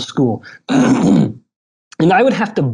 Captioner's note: clearing throat